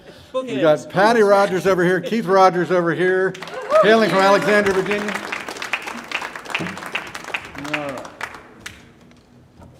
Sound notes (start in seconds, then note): 5.8 audience applauding